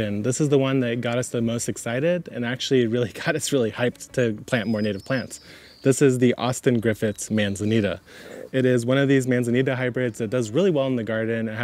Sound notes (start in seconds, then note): 5.4 birds chirp